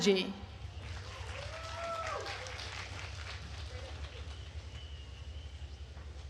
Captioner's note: attendees cheering and applauding